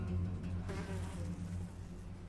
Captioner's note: fly buzzing